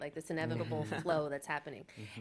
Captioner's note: chuckles